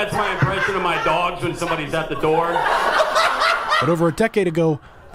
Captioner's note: laughter